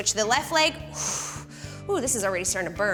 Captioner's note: exhales